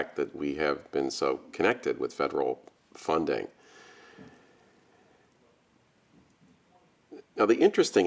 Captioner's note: long pause